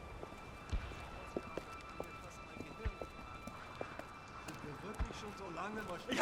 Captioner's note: men speaking German